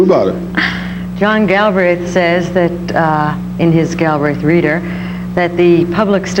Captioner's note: laughs